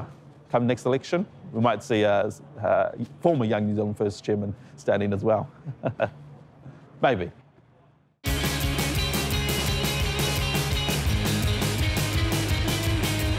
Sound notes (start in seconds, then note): 5.7 laughs; 8.2 upbeat music